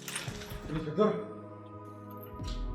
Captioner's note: quietly